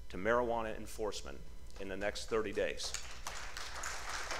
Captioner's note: applause